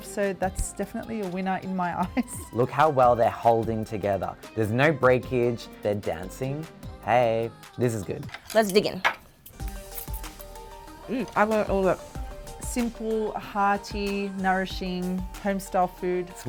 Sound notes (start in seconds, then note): 2.0 chuckles; 8.2 wooden chopsticks clanking; 9.6 upbeat music